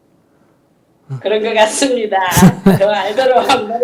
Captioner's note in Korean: 스님 웃음; 질문자 웃음